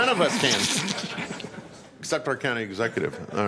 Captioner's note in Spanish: Risas